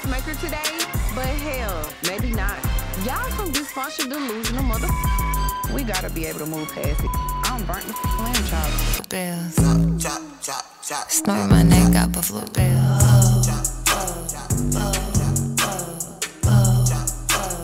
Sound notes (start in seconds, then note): 4.8 beep; 6.9 beep